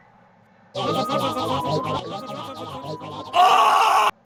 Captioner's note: panicked alien arguing